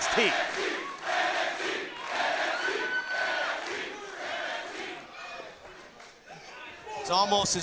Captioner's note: crowd cheering